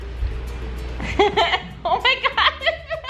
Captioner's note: laughing